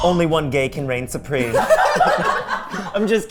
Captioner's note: everyone laughing